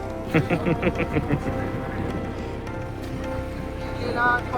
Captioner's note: laugh